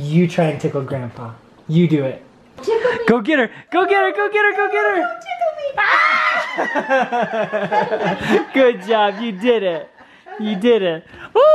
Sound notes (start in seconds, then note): 2.7 voiceover; 7.3 laughing; 8.8 voiceover